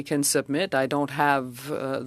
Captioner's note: speaking French